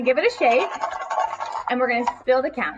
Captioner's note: counters rattling